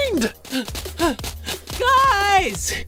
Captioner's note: panting